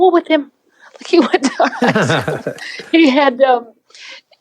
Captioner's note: laughs